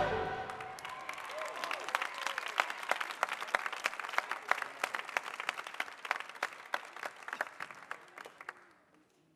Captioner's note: applause